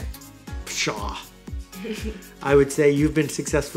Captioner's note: laughs